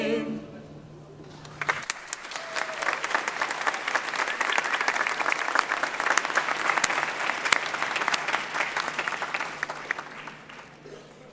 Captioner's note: applause